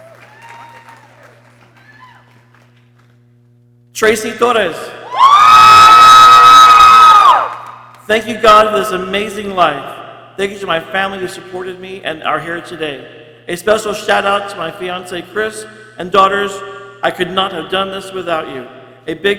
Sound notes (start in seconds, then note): 0.0 people cheering; 5.0 people cheering